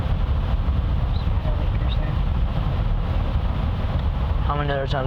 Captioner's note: whispers